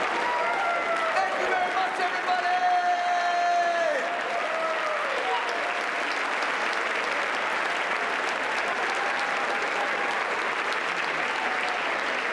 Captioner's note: applause